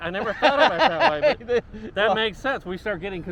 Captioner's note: laughing